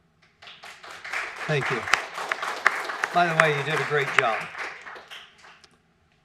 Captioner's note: applause